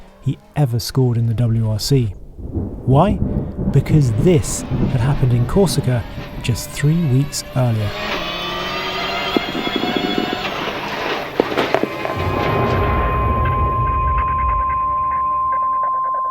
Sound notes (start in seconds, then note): 7.9 engine rasping; 12.2 ominous music